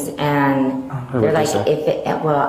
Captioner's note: Ida stuttering